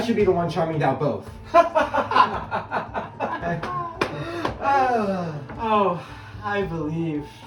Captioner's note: laughter